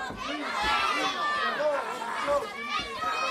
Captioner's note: crowd chatter